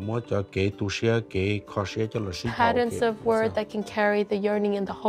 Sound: speaking in Hmong

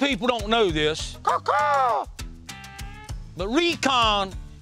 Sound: bird call

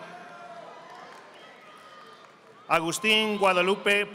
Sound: audience applauding

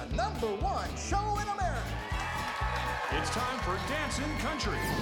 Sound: cheering

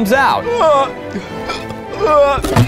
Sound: moaning; hiccuping; podium crashing

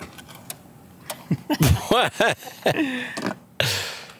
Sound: they laugh

